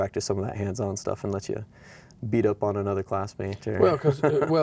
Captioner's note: chuckles